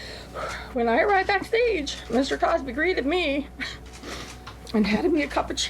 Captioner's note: sighs; laughs